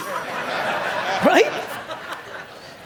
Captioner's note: audience laugh